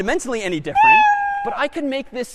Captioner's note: meow